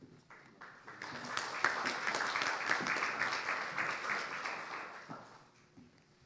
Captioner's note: audience applauding